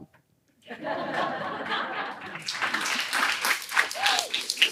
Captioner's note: laughter, applause